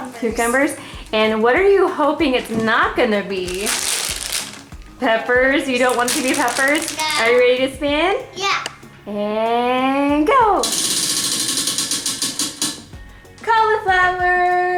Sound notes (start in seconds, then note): 10.6 wheel clicks